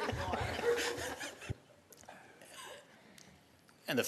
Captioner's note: laughter